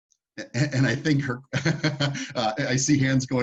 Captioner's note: laughs